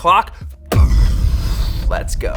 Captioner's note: exploding